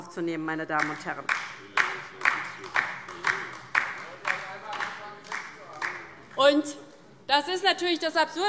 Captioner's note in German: Beifall DIE LINKE